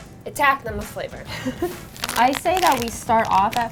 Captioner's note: laughing